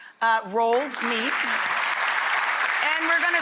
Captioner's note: audience applauding